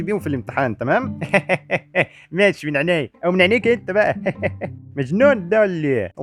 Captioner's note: laugh; laugh again